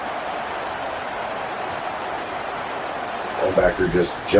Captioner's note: crowd Noises